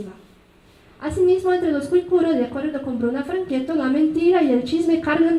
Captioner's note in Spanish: habla en mazateco